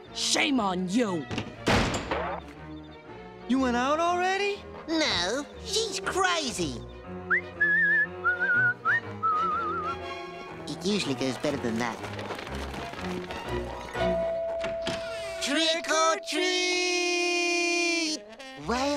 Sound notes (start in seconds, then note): 7.2 whistling; 14.0 doorbell ringing